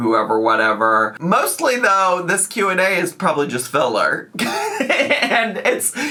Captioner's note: laughs